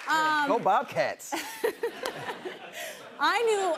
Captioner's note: laughs